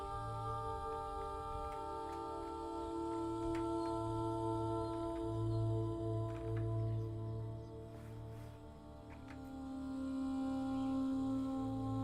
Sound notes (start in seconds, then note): 1.6 latch rattling